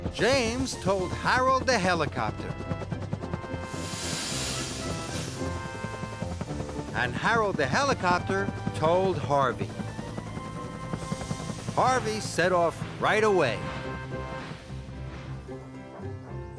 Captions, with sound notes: JAMES TOLD HAROLD THE HELICOPTER. ( Rotors Beating ) ( Wheesh! ) AND HAROLD THE HELICOPTER TOLD HARVEY. HARVEY SET OFF RIGHT AWAY!